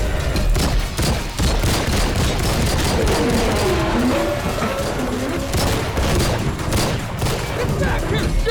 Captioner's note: gunshot